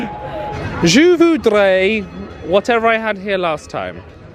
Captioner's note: speaking in foreign language